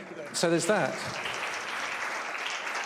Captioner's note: applause